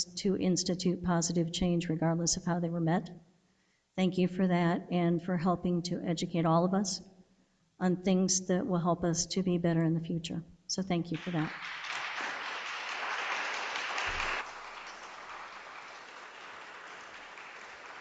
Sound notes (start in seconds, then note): 11.1 audience applauds